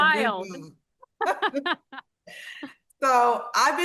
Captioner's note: both laughing